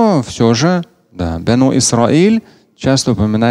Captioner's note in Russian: Говорит на арабском